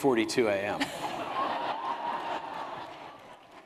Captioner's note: laughter